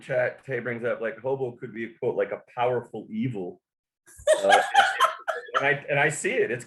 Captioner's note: laughter